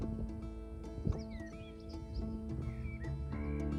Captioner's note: birdsong